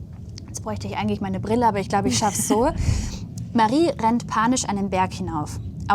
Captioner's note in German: gelächter